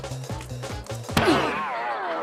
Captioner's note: groans